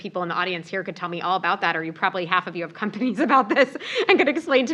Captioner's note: laugh